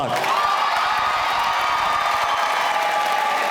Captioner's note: applause